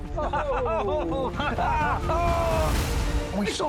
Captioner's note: laughs; both laughing